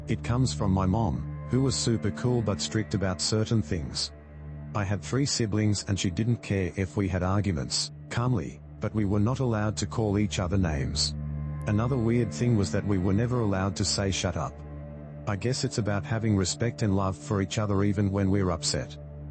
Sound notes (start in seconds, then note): 7.9 calmly